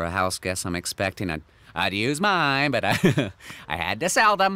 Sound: giggles

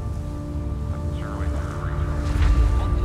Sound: air traffic control sounds

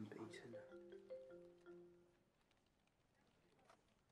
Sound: phone chiming

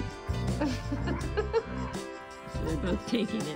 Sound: laughs

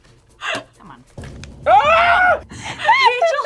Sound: laughs; screams

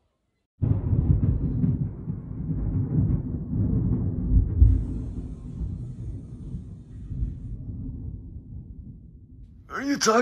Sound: thunder

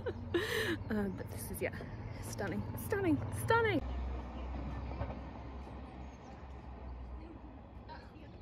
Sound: laughs; sounds of chatter and laughter; sounds of birdsong and light traffic

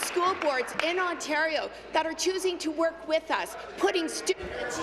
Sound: applause

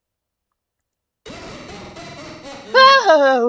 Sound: Sonic.EXE laugh; deadpan imitation of Sonic laugh

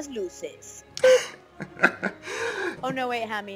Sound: laughing

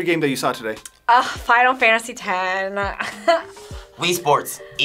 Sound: laughs

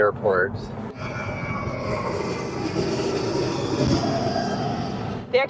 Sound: plane taking off

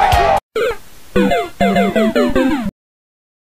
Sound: people going crazy; super mario bros dead sound

